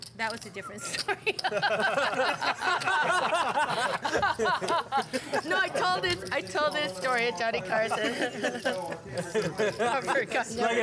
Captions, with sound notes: - Oh no, that was a different story. (laughs) (laughter) No, I told this story at Johnny Carson. (laughter)